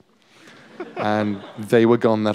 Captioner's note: laughter